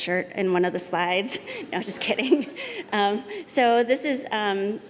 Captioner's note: laughter